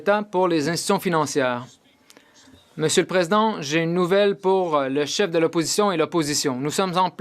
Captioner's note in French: voix de l'interprète